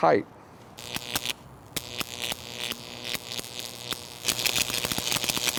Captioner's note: electricity crackles